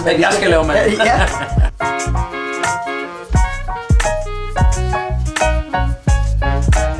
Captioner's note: both laughs